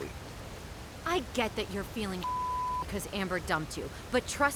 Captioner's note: beep